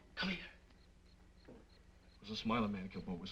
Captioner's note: insects chirping